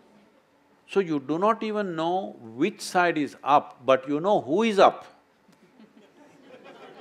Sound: laughter/Applause

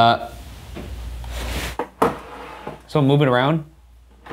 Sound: drawer rasping

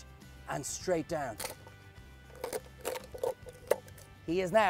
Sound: crunching noises

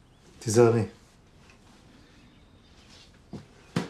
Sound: none

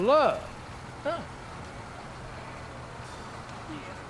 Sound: engine idles

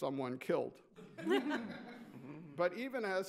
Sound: laughs

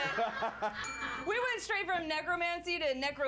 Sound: laughter; bell rings

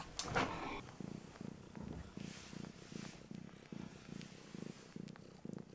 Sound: heavy purring

